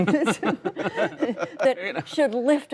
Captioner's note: laughter